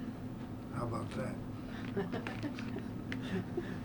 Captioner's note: laughter